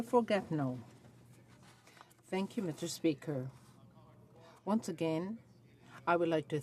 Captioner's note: speaking French